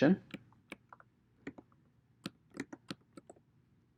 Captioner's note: keyboard clicking